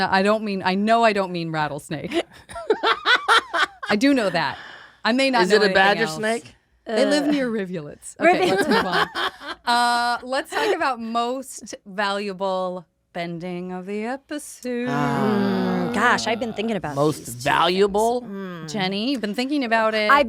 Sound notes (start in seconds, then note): 2.3 laughs